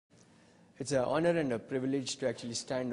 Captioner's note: voiceover